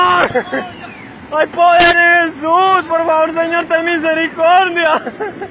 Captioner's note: crying; crying